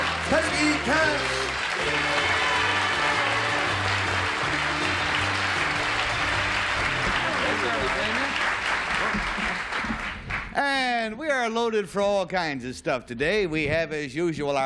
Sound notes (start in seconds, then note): 2.7 applause